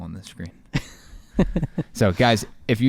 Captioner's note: laughing